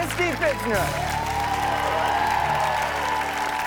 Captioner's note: audience cheers and applauds